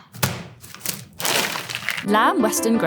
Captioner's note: fries pack thudding; plastic crinkling